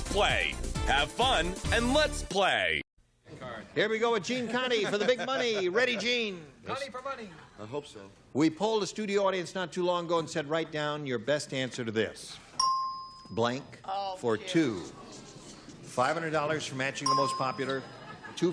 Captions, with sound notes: Ready, Gene? - Condie for money! - I hope so. - We polled a studio audience not too long ago and said, write down your best answer to this-- [ding] "Blank for two." $500 for matching the most popular,